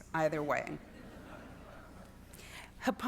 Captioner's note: students laughing